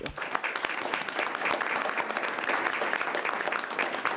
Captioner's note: group applauding